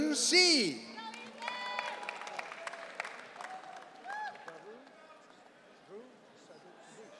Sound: audience cheering

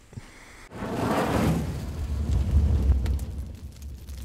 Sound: fire crackles

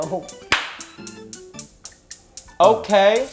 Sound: ticking

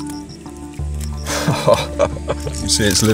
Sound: laughs

